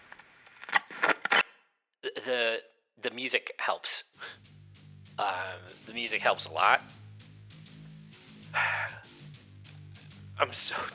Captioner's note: static; sighs